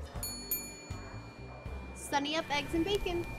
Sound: bell dinging

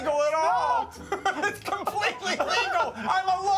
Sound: laughs

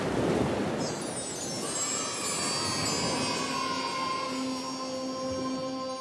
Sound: children cheering

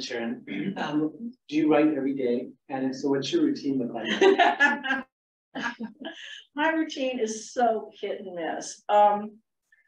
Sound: laughter

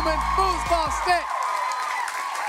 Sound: cheering, applause

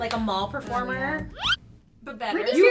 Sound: record zips sound

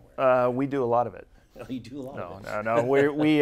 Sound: laughing

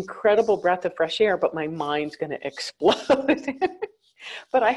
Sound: chuckles

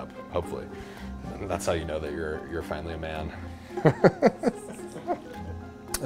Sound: laughs

